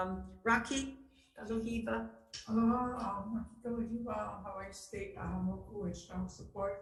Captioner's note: speaking foreign language